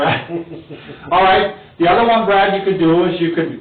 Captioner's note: laughs